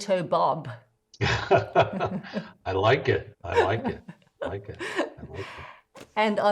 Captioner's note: laughs